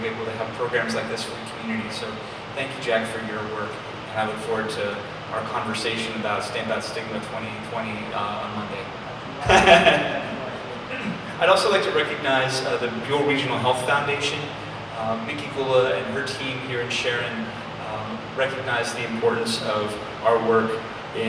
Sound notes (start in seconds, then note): 9.4 laughs